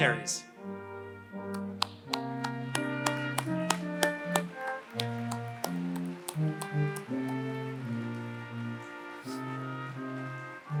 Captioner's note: applause